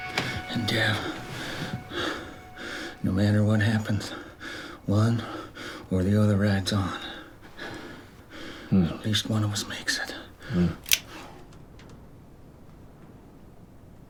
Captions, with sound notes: And Dev, no matter what happens, one or the other rides on. At least one of us makes it. [GUN CLICKS]